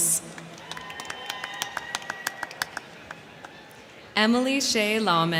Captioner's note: crowd clapping; crowd cheering